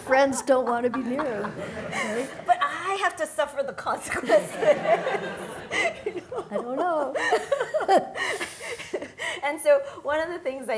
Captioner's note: laugher